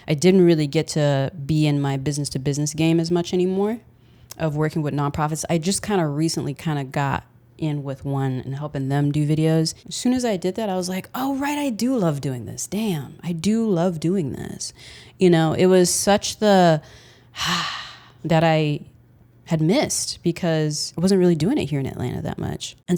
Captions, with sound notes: I didn't really get to be in my business-to-business game as much anymore, of working with nonprofits. I just kind of recently kind of got in with one in helping them do videos. As soon as I did that, I was like, "Oh, right, I do love doing this. Damn. I do love doing this." You know, it was such the (exhales) that I had missed because I wasn't really doing it here in Atlanta that much